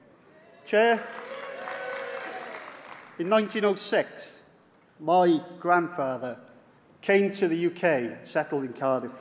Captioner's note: applause